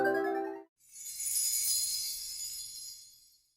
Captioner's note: rising electronic music; sleigh bells